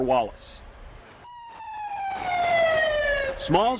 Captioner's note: siren wails